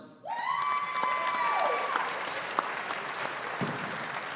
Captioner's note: audience applauding